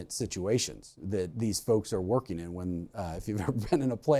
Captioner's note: laughs